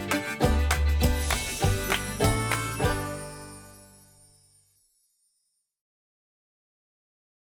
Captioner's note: country hoedown music; windchimes twinkle